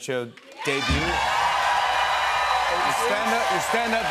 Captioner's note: cheers and applause